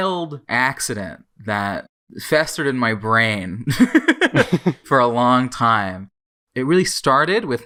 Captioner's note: both laugh